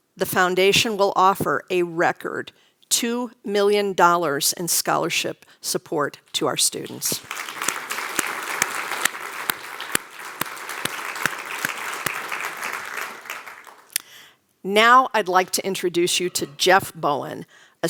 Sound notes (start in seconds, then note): 6.8 applause